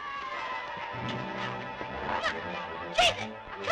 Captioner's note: ominous music; shouting